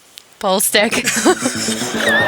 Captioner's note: laughing